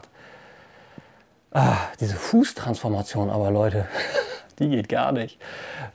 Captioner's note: laughs